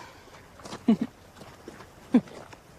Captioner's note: Rosemary chuckles